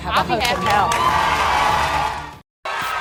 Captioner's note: audience cheers and applauds